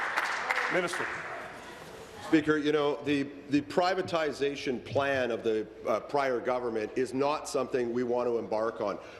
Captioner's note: applause